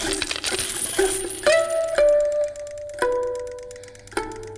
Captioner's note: coins clanging